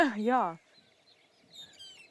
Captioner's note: laughs